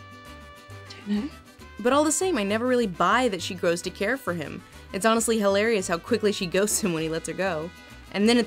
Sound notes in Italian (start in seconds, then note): 2.0 voce fuori campo